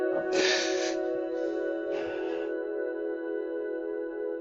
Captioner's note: crying